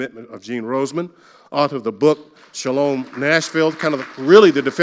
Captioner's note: audience applauding